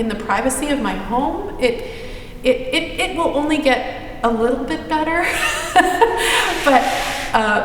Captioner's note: laughs